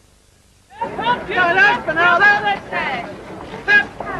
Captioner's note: indistinct chatter